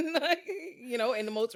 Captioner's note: laughing